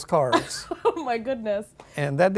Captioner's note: laughing